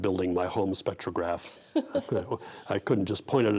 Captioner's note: laughing